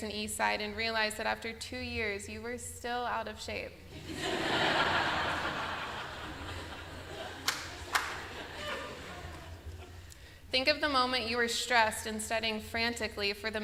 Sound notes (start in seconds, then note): 3.9 laughter